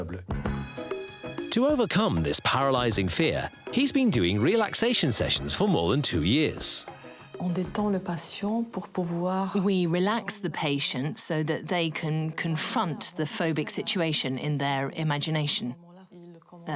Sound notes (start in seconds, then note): 0.3 upbeat music; 7.4 doctor speaking foreign language